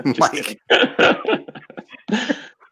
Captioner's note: laughing